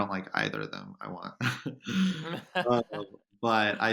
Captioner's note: laughs